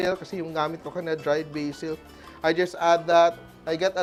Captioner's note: none